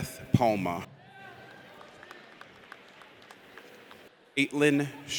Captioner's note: audience applauds